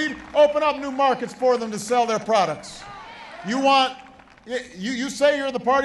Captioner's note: cheering and applause